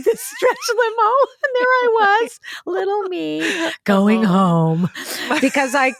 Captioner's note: laughs